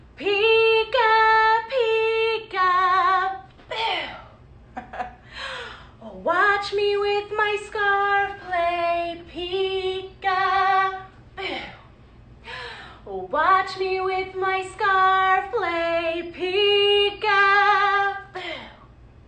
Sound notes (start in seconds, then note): 4.8 laughing; 5.3 gasping; 12.4 gasping